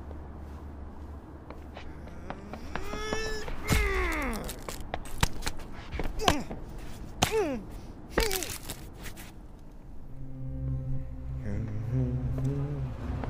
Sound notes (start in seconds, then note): 1.8 grunting; 9.8 humming